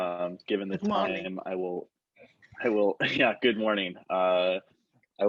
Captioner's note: laughter